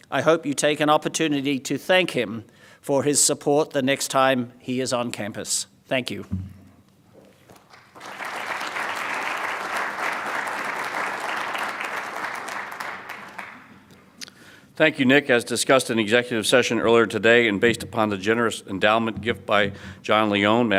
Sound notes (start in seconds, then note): 7.6 audience applauds